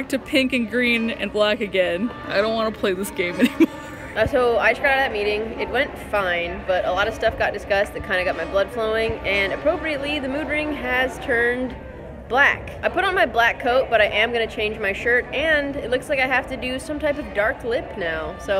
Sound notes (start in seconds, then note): 3.3 laughs